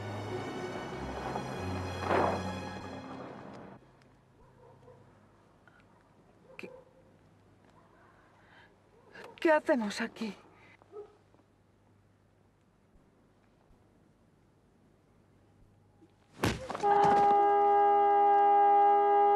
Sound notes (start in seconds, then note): 16.8 horn